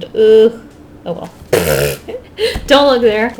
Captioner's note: laughs